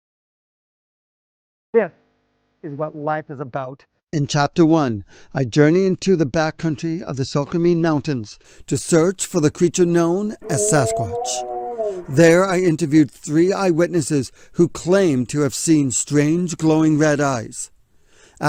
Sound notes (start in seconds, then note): 10.4 Sasquatch rugiendo